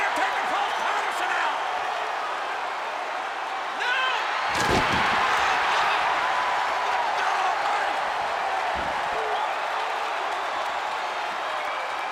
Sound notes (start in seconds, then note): 4.7 audience cheers